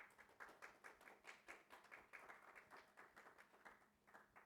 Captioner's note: audience clapping